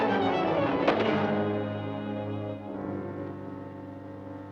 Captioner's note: Scout Seven thuds